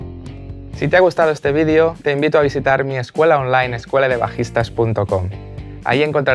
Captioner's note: Spanish